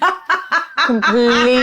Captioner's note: laughs